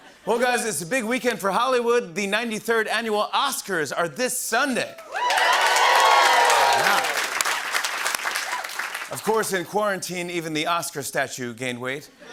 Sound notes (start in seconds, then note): 5.0 cheers and applause; 12.2 laughter